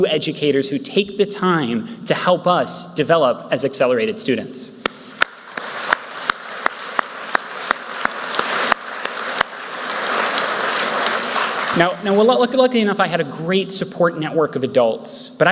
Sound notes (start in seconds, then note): 5.1 speaker and Audience members clapping